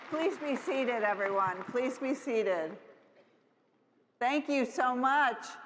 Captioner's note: applause